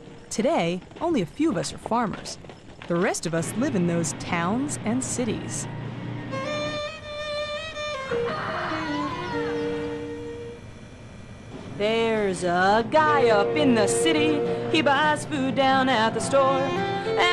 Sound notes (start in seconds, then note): 7.8 rooster crowing; 11.7 singing